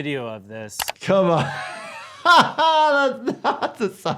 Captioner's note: laughing